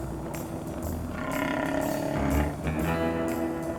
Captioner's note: stomach growling